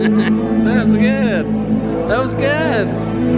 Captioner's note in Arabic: يضحك